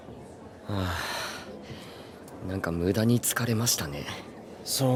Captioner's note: sighs